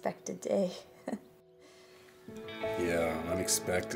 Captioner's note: Keely chuckles